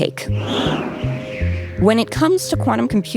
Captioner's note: wind howling